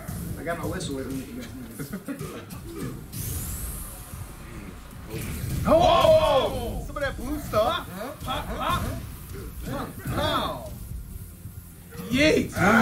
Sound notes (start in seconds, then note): 1.6 laugh